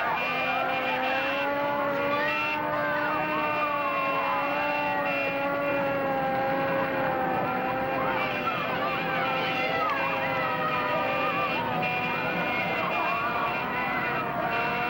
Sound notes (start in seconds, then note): 4.4 cheering and yelling